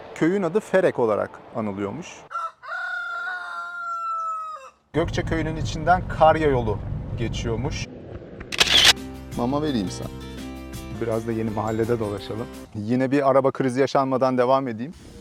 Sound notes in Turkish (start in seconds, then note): 2.2 Horoz sesi